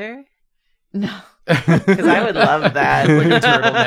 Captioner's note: laughs